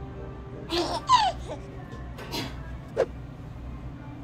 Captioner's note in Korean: 헤헿